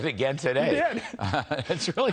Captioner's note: laughter